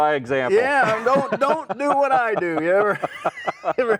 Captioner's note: laugh